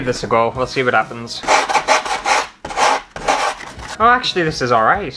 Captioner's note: sandpaper Scratching